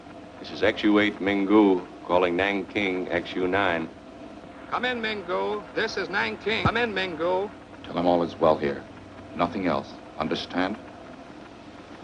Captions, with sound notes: This is XU8 Mingu calling Nanking XU9. - [Man On Radio] Come in, Mingu. This is Nanking, come in, Mingu. - Tell him all is well here. Nothing else, understand?